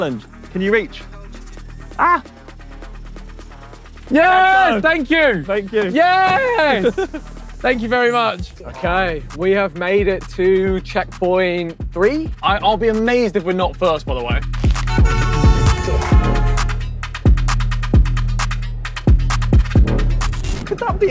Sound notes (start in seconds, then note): 14.8 car horn honking; 18.1 deep bass music